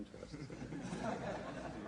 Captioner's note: laughter